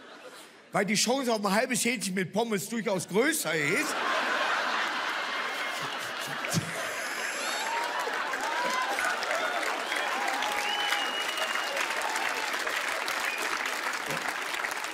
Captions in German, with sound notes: Weil die Chance auf ein halbes Hähnchen mit Pommes durchaus größer ist ... (Schallendes Gelächter) (Er lacht selbst.) (Applaus, Jubel)